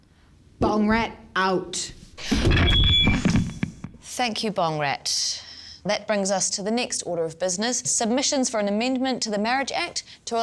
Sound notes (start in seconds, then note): 2.2 microphone feedback